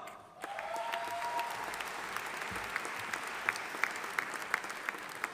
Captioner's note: audience applauding